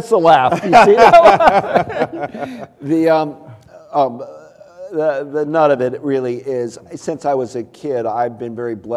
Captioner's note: laughter